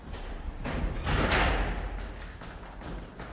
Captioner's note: door closes